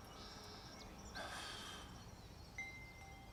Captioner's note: exhales